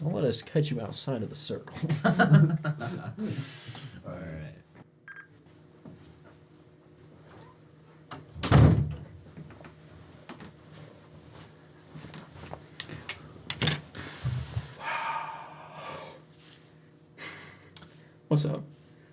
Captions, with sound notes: don't let us catch you outside of the circle *laughter* *bebeep* *long exhale* whats up